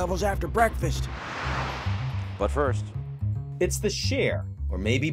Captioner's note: logo whooshes